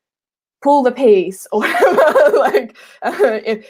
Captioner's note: laughing